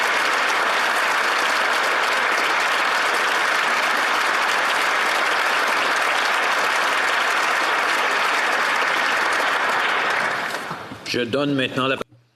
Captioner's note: applause